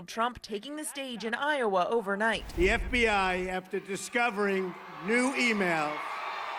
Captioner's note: chanting "lock her up"